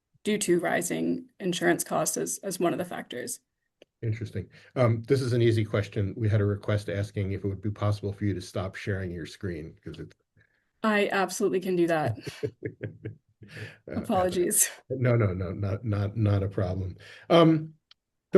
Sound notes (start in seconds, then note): 12.0 laughter